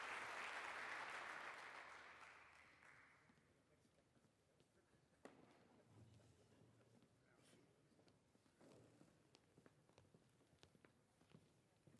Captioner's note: applause